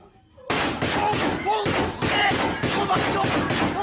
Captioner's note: gun firing